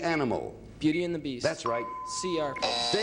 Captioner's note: buzzer sounds